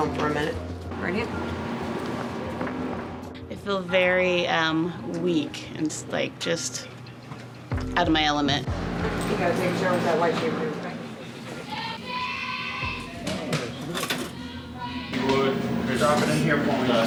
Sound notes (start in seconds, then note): 11.3 inmate yelling